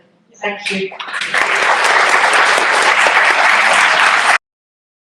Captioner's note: clapping